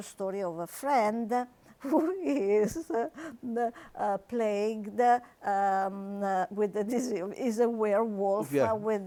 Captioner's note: laughs